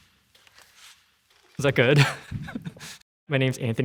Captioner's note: laughs